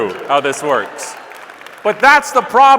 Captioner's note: scattered applause